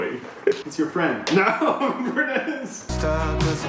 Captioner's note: laughs